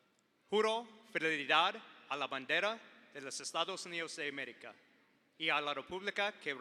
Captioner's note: speaking in foreign language